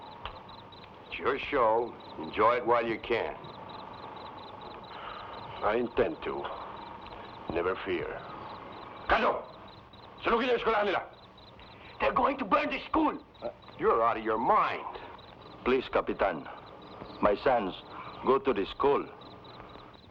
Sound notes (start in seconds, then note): 9.2 Magno speaking in Tagalog